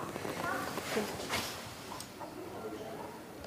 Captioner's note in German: Gespräche im Hintergrund